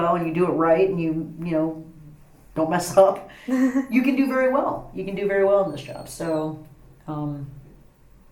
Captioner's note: laughs